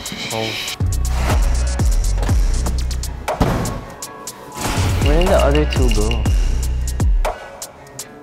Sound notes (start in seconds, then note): 3.3 bang!